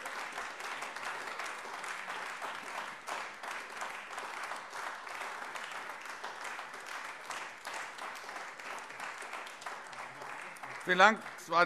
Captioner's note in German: Beifall AfD